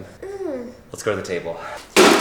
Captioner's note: groans